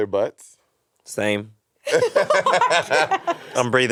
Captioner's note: all laughing